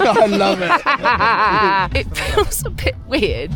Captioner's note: laughs